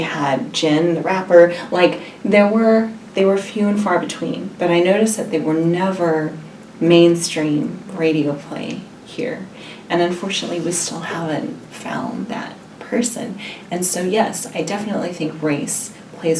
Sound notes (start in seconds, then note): none